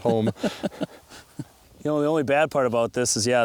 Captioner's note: laughs